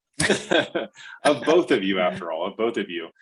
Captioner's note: laughs